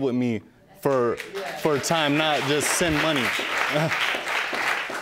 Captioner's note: audience clapping